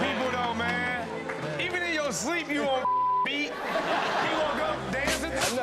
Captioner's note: beep